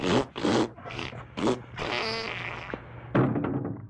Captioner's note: farting; farting gets more violent